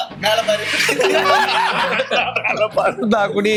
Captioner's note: laughs